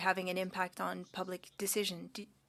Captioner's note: speaking French